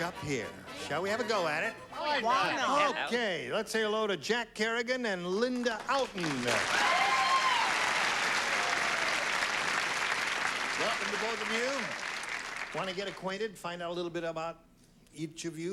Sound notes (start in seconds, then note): 1.9 panel agreeing; 6.0 cheers and applause